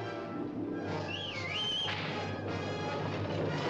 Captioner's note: whistling to wagon